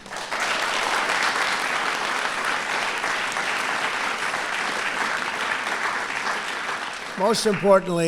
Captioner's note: applause